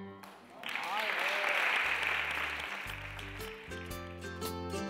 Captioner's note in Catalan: Aplaudeixen